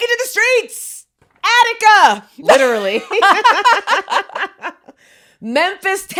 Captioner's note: both laughing